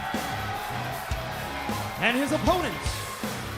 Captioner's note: cheers and applause